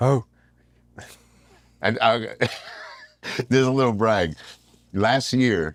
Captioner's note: laugh